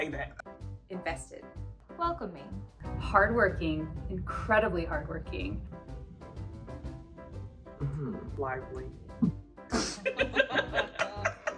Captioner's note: laughing